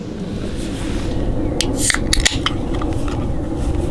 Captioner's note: sound of a can being opened